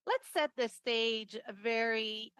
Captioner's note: speaking French